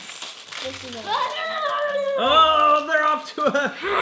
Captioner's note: shouting